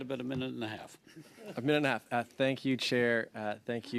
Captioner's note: laughter